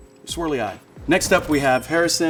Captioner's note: bell dinging